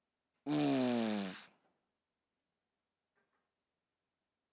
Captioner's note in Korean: 콧방귀